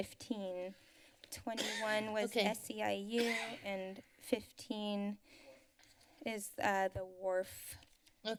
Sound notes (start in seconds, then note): 3.2 cough